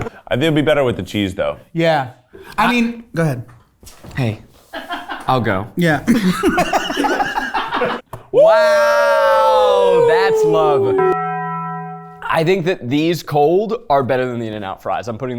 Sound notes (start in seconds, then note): 4.4 crew laughing; 6.1 laughing; 10.8 Taco Bell bell ringing